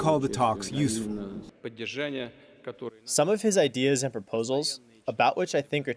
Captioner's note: through translator